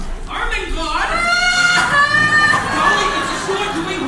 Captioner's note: Ermengarde wails